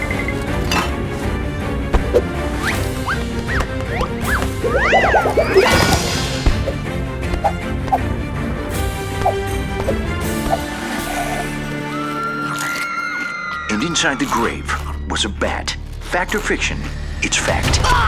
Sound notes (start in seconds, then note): 12.2 distant screams